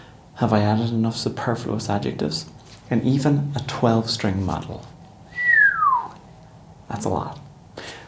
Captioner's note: elaborately impressed whistle